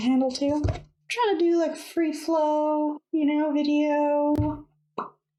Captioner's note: pop!